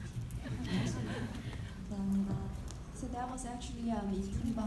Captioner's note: audience laughing